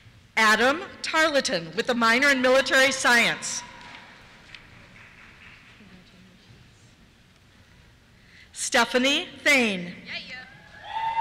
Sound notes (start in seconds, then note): 3.3 cheers; 10.6 cheers